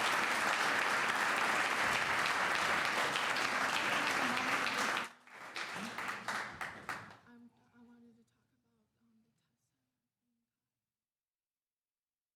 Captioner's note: cheers and applause; applause